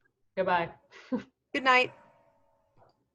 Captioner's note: laughing